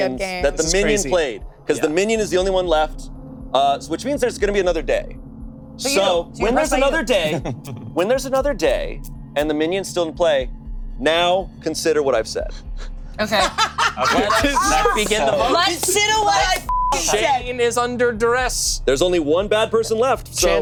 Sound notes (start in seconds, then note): 13.2 laughing; 16.6 beep